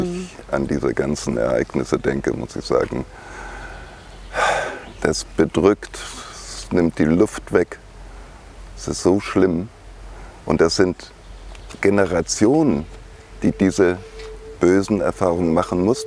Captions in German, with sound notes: wenn ich an diese ganzen Ereignisse denke, muss ich sagen. (seufzt:) Das bedrückt, das nimmt die Luft weg. Es ist so schlimm. Und das sind Generationen, die diese bösen Erfahrungen machen mussten.